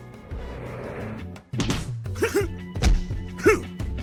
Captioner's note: shouts